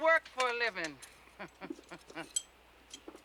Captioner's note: laughs